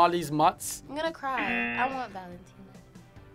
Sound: buzzer rings

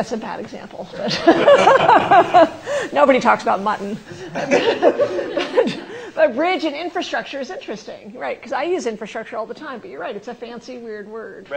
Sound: laughter

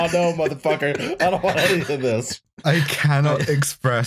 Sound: laughter

